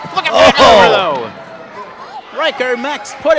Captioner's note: audience shouts